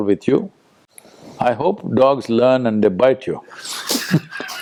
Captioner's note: laughs